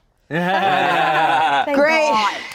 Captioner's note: all laughing